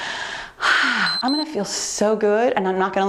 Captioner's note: timer beeps